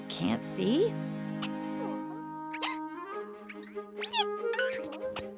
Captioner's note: caterpillar noises